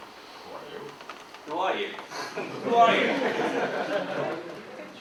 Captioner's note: audience laughs